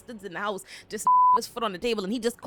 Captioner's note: beep